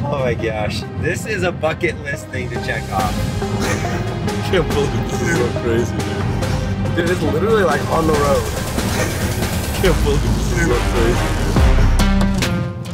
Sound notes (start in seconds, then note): 3.5 laughs; 8.7 laughs